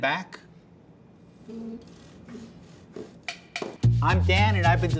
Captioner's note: saw scraping